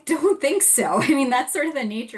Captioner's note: laughs